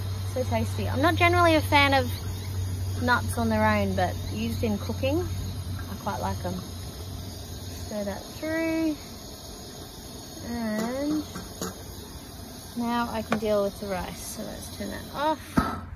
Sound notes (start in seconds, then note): 10.1 spatula taps on pot; 14.6 gas flame extinguishes loudly